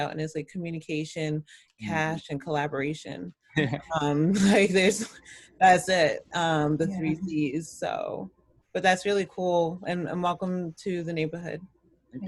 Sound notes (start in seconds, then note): 3.6 laughs softly